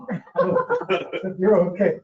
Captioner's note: they all laugh